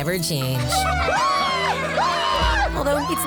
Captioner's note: cheering